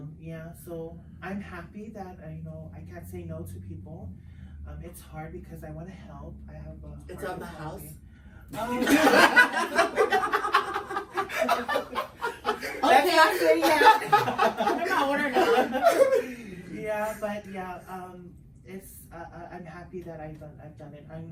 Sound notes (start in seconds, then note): 8.6 everyone laughs